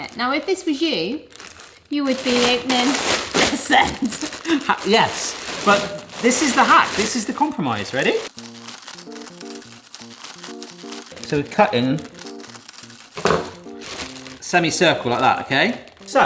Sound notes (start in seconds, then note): 8.2 light bright music; 8.5 plastic rustling